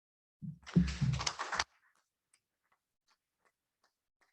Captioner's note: applauding